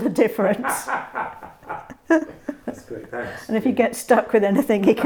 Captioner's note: loud laughter